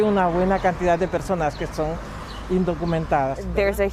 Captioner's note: speaking spanish